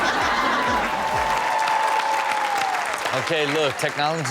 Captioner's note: audience laughing; audience clapping and cheering